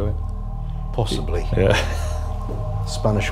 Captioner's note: chuckling